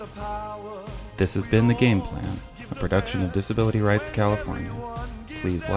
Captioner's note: voiceover